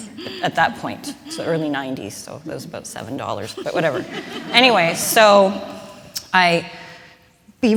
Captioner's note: laughter